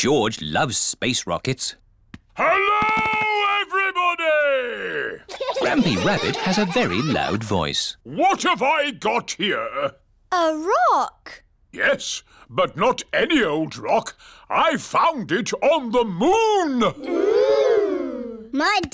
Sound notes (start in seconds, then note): 2.4 shouts; 5.2 laughter